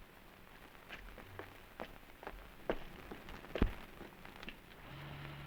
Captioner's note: footsteps receding